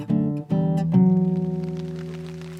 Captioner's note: rain sounds